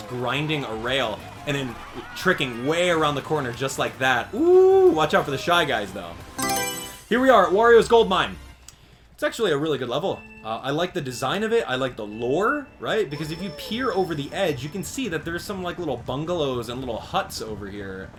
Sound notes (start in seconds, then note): 6.3 Mario Selection Sound